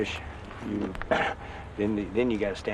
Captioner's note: he coughs